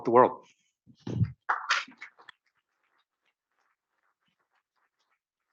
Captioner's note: audience applauds